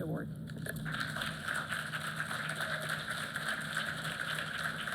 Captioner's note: applause